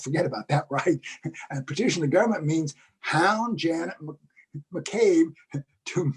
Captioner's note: laugh